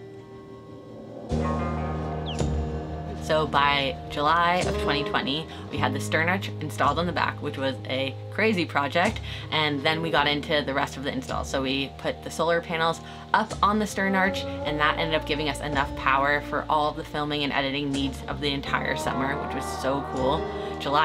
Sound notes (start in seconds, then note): 0.2 gentle music; 0.7 birds chirping